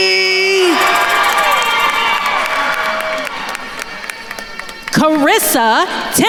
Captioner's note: attendees cheering and applauding